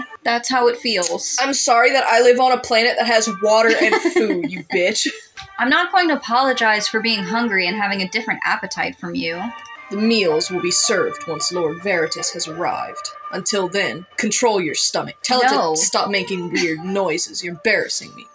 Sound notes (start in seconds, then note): 3.6 laugh